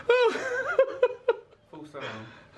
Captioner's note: laughs